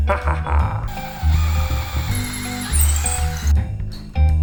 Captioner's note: laughs; drill whirs